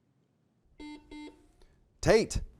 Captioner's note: buzzer beeping